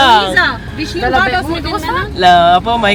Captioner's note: speaking German